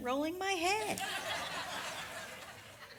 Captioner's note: audience laughs